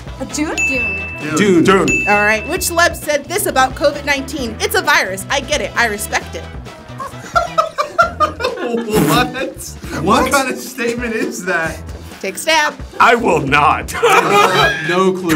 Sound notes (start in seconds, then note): 7.0 laughs; 13.9 all laugh